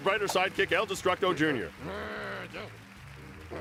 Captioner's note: applause